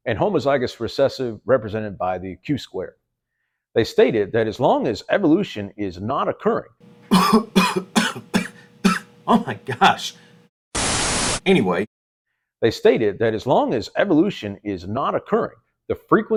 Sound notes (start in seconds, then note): 10.0 cough